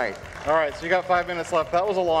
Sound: audience applauds

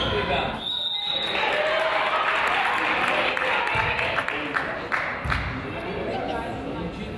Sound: whistle blows; crowd applauds

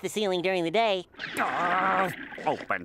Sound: groaning

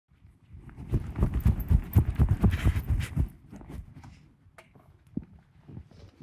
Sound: jacket swooshing microphone

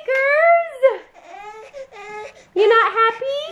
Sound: baby whimpering

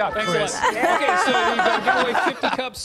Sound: laughter

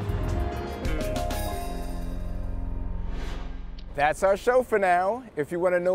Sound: upbeat music; car engine revving

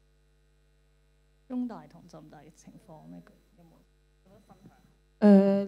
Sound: Cantonese

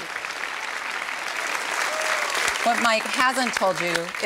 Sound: cheering and applause

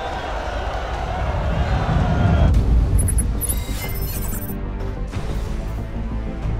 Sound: readout sliding and beeping; wind rushing; ominous orchestral music

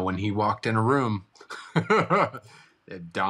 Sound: laughs

